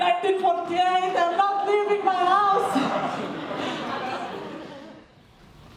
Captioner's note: laughing